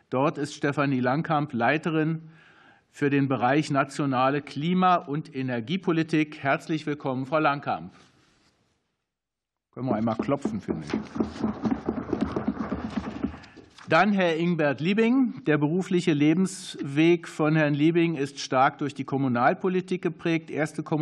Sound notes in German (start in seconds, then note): 10.9 Beifall